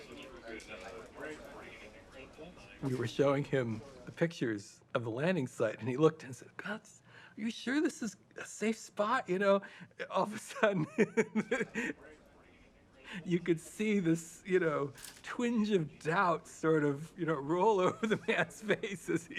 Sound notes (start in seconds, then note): 10.4 laughing